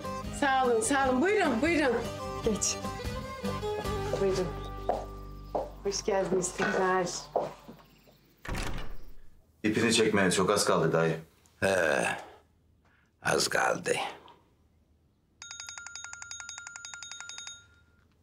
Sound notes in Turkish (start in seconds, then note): 15.4 Telefon çalıyor